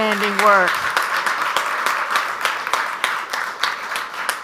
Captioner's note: audience applauds